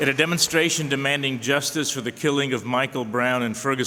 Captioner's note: applause